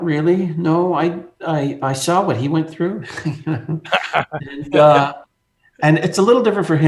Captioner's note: laughing